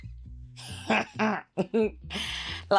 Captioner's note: laughs